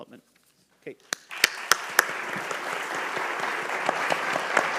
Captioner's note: all applaud